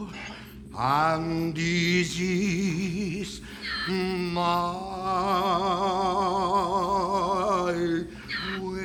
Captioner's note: Donkey's bray